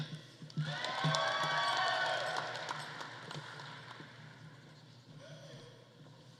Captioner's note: audience cheering; audience applauding